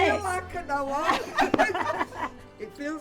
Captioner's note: group laugh